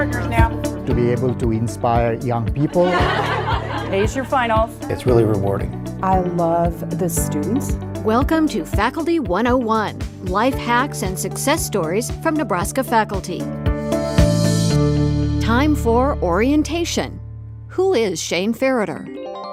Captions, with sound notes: switch partners now. To be able to inspire young people. (laughing) Ace your finals. It's really rewarding. I love the students. Welcome to Faculty 101, life hacks and success stories from Nebraska faculty. Time for orientation. Who is Shane Fereter?